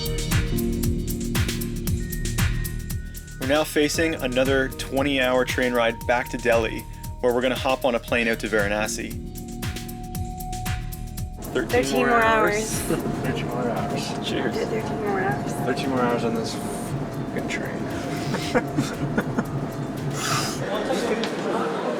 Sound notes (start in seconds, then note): 18.1 laughter